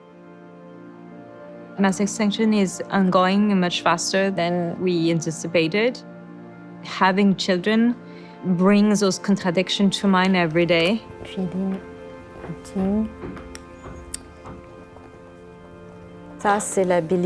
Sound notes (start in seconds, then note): 11.3 speaking French